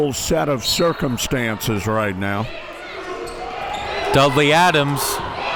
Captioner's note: whistle blows